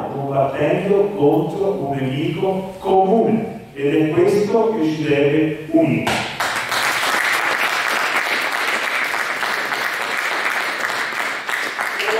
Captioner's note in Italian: Applauso